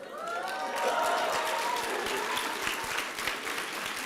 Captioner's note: applause and cheering